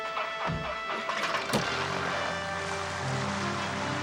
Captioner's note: motor whirring